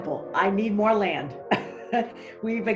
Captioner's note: laughs